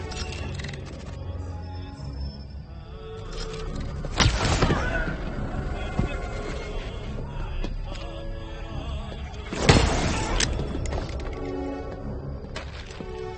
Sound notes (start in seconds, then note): 9.6 gun shot fires